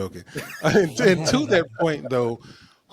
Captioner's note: laughing